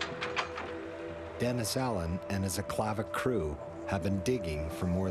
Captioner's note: voiceover